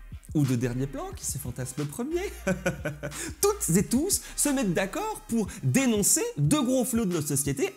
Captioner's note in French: rires